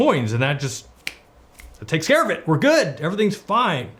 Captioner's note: snaps